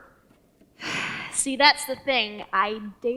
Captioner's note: sighs